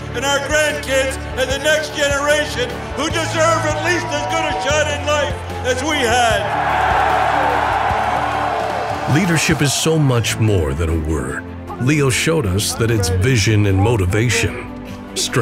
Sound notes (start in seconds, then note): 6.7 cheers